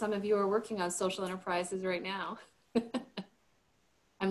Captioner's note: chuckles